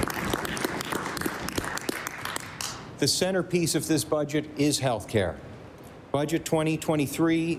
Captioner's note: applause